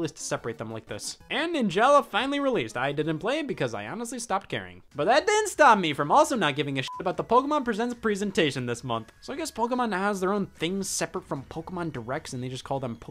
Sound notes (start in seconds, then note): 6.8 beep